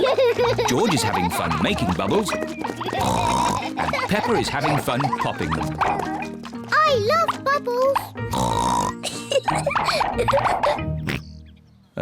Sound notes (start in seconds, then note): 2.8 oinks; 8.2 oinks and giggles; 11.0 oinks